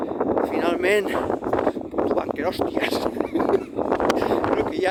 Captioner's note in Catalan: Riu